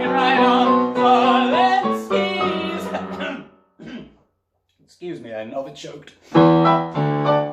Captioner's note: cough, splutter